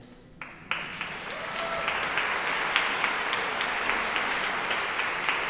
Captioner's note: audience cheering and applauding